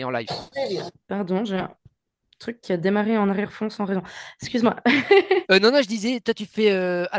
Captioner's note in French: rires